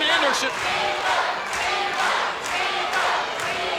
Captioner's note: crowd cheering